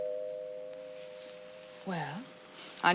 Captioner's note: doorbell ringing